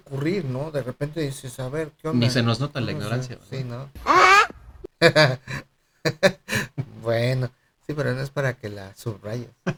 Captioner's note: laughs